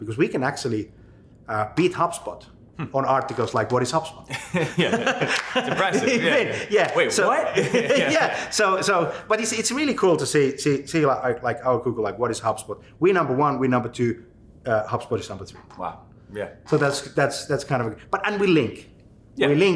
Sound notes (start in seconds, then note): 4.3 both laughing